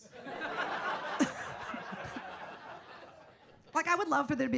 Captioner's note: audience laughs